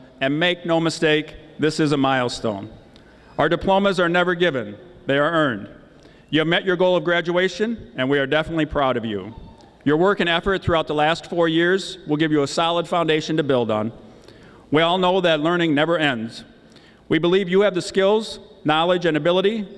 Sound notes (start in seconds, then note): none